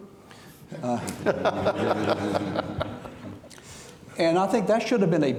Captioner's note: audience laughing